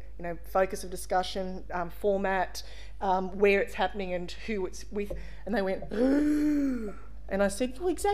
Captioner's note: gasp